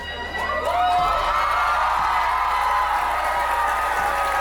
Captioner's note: audience cheering